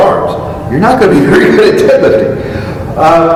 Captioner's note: chuckle